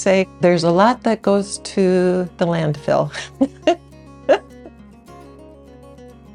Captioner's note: chuckles